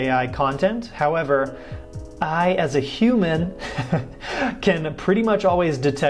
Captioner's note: chuckles